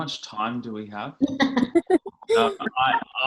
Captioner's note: laughing